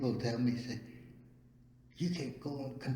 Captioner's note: none